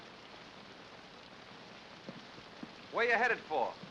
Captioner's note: rain patters